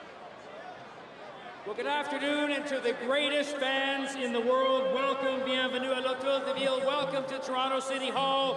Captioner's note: applause